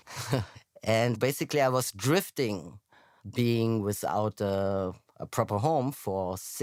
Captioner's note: laughs